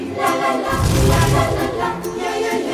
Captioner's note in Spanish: Sonido Fuego